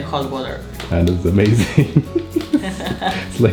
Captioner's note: laughs